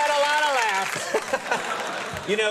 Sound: laughter

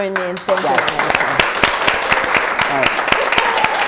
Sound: applause

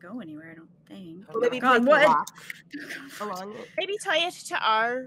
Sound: group chattering

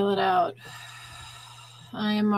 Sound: exhaling

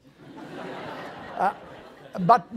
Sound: laughing

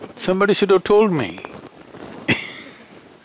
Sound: laughs

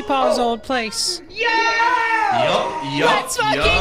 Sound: horn honking

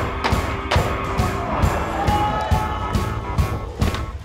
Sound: cheers

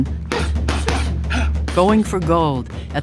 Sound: both grunting and exhaling

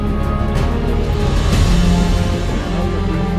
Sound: sirens

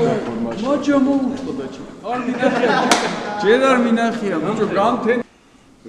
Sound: laughs

